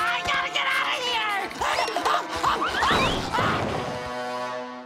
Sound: screaming

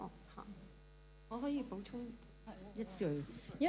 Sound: Cantonese

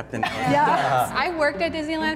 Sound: all laughing and agreeing

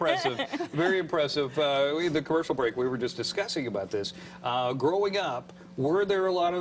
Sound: laughter

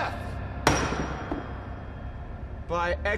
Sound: Crane banging gavel

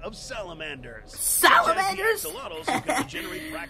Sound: laughs

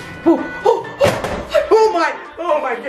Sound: gasping

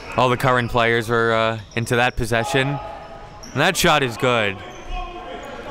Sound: crowd cheers

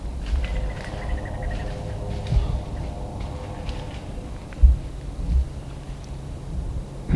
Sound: squirrel barking rapidly

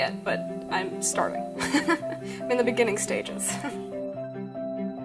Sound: laughs

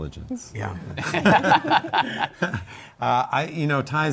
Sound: laughter

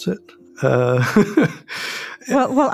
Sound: laughs

